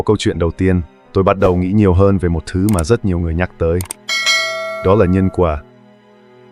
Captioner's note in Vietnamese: chuông